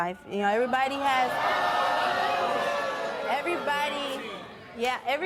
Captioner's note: crowd booing